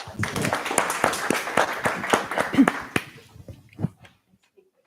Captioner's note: applause